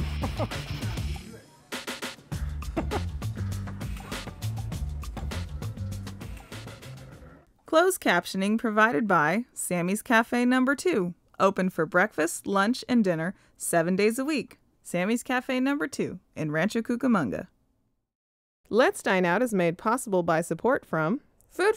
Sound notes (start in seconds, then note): 0.0 laughs; 3.3 upbeat pop music; 7.8 voiceover